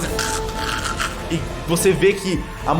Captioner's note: choking noises